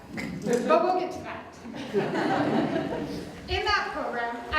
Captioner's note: audience Laughter